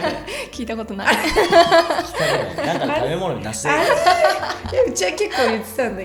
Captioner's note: laughs